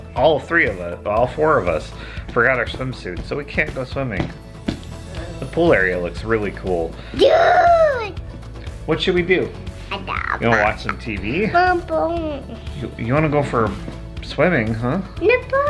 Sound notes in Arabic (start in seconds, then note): 7.0 تصدر ضوضاء سعيدة